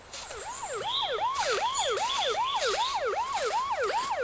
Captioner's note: police siren alarming